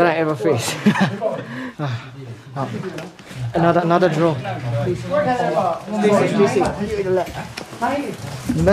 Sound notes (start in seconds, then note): 0.6 laughter; 5.9 excited babble of voices